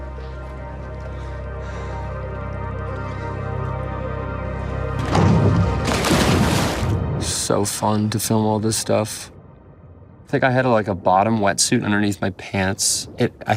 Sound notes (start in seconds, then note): 0.2 dramatic music; 5.0 water splashes